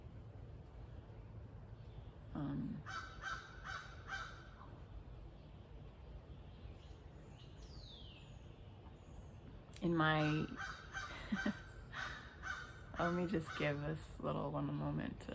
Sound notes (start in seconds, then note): 11.9 crow sounds; 12.9 laughs